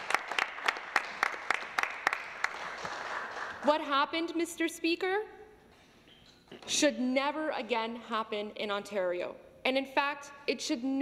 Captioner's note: some Applause